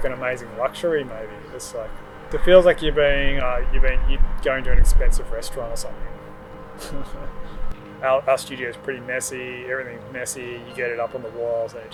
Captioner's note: laughs